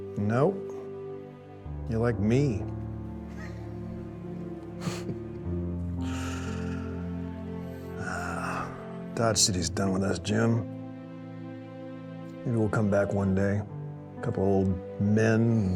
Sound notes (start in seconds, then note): 3.2 laughs; 4.8 laughing